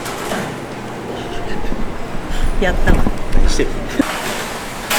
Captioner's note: tears